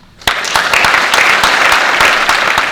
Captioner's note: audience Clapping